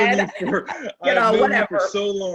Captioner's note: chuckles